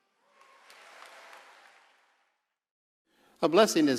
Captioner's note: audience cheering